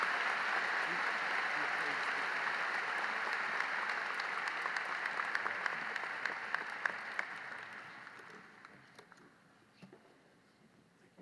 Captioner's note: applause